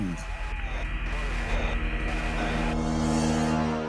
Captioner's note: radio crackles drown out voices